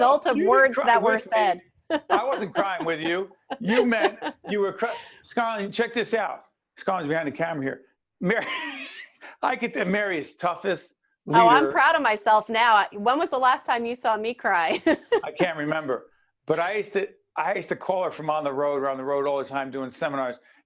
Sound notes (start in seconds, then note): 8.5 laughing